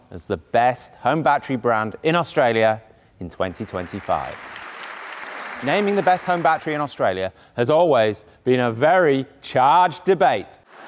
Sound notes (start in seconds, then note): 3.5 audience applauding